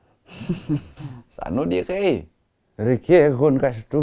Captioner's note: laughs